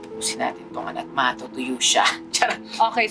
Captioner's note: laughs